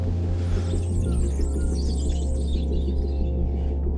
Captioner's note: birds chirping